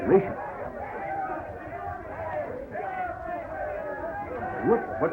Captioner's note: people yelling outside